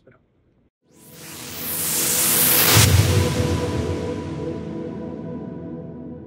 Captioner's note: whooshing